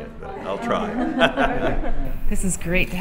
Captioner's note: laughs